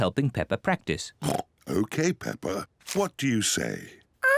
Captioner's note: oinks